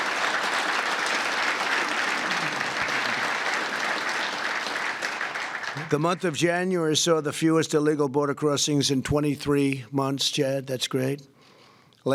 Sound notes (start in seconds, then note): 0.0 applause